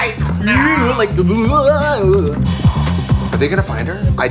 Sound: sound effects

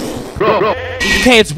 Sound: bug screeches

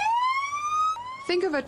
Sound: / : siren

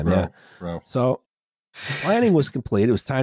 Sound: laughs softly

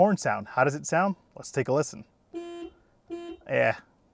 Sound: horn beeping

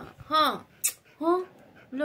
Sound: kiss

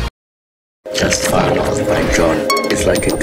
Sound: distorted soundscape

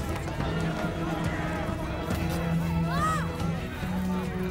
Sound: people shouting

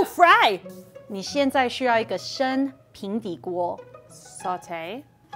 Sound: speaking in mandarin

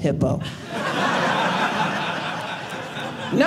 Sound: audience laughing

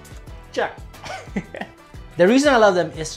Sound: laughs

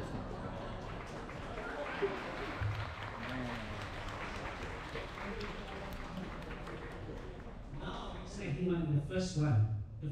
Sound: applause

